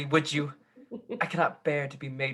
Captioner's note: chuckling